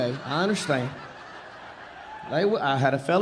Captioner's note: audience laughing